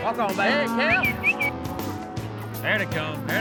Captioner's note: whistling; shouting